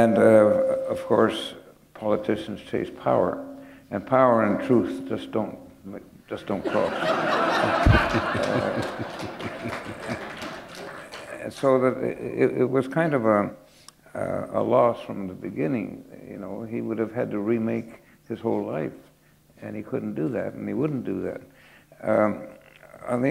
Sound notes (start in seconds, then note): 6.6 laughter